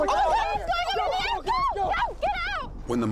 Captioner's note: screaming